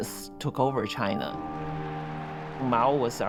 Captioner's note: crowd cheering and applauding